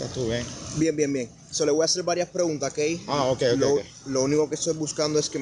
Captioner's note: speaking Spanish